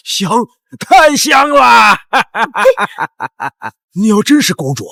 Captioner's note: 笑笑